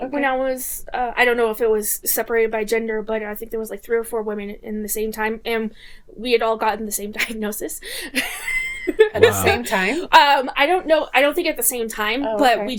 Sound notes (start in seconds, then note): 9.1 laughing